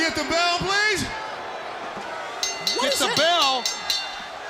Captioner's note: bell ringing